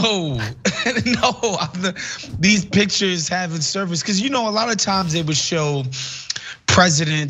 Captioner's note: laugh